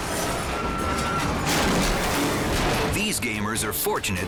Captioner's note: tiles bang